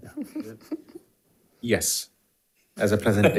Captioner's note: board Members laughing; board Members laughing